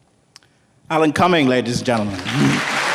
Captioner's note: applause, cheers